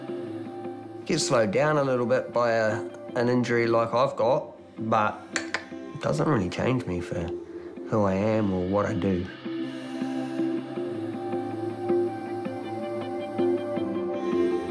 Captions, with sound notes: You get slowed down a little bit by an injury like I've got, but... (CLICKS TONGUE) it doesn't really change me for who I am or what I do. (BRIGHT MUSIC)